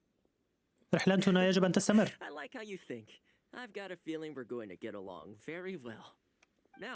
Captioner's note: laughs